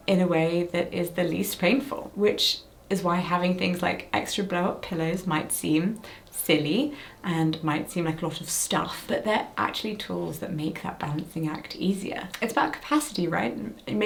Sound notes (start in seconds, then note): none